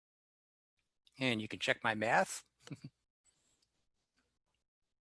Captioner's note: giggles